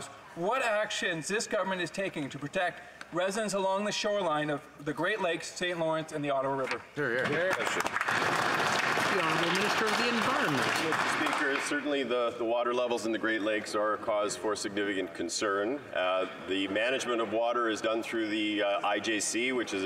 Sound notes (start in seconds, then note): 10.0 some Applause